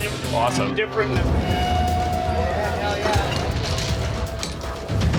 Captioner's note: chatter